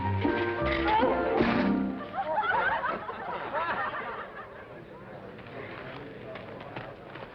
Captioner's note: laughter